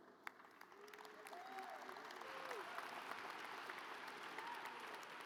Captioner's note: audience applauds